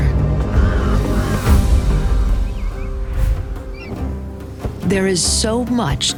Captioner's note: birds chirping